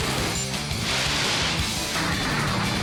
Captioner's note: Button beeps, Rockets blast